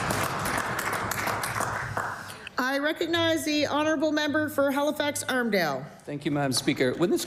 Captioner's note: applause